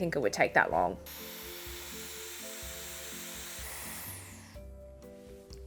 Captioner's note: hairdryer whirring